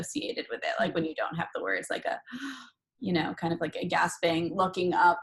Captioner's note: gasp